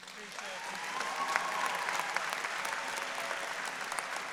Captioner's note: audience applauding